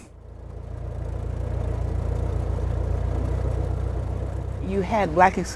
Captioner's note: engine rumbling